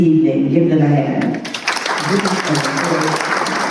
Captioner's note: applause